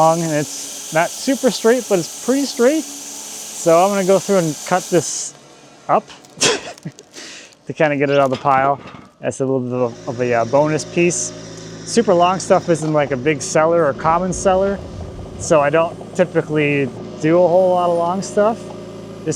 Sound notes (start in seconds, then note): 6.4 chucking